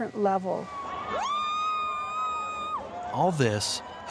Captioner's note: crowd cheering